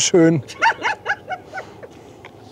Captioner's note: laughs